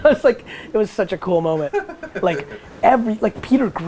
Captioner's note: laughs